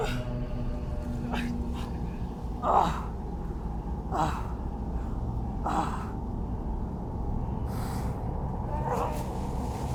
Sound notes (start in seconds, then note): 2.7 Arawn groaning; 4.9 tense music continues